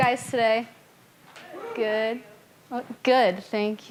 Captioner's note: person whooping